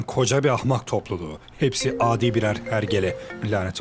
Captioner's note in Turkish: İphone ring